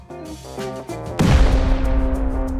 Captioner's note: boom